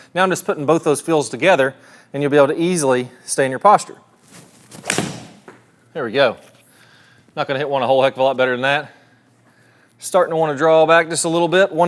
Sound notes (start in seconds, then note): 4.7 club striking